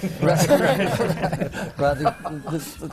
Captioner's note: laughs